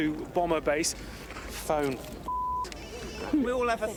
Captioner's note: phone ringing